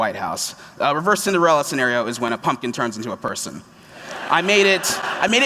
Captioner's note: laughter